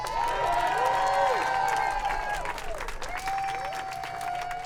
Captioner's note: audience cheers